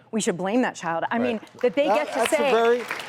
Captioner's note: applause